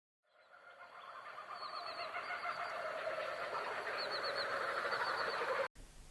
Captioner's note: distant animal sounds